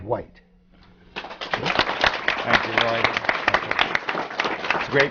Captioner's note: applause